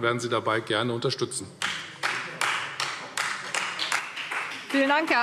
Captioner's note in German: Beifall Freie Demokraten